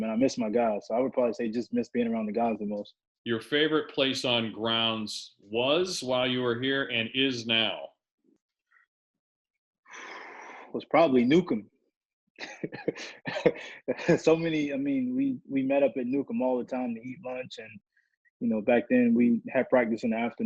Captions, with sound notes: And I miss my guys. So I would probably say I just miss being around the guys the most. Your favorite place on grounds was while you were here, and is now? [EXHALES] It was probably Newcomb. [LAUGHS] So many-- I mean, we met up at Newcomb all the time to eat lunch, and back then, we had practice in afternoon.